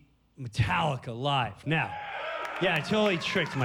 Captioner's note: cheers and applause